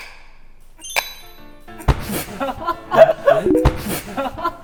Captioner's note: snap!!!